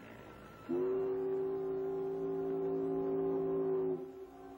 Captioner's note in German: HORN ertönt